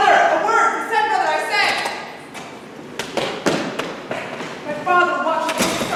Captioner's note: door opens offscreen